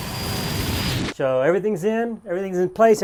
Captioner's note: saw whirring